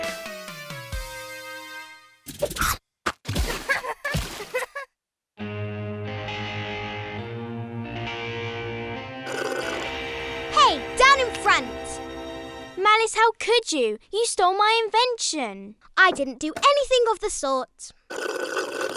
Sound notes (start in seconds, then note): 3.3 splashing; 3.5 Esme laughing; 5.6 uneasy music